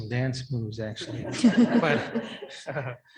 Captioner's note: audience laughing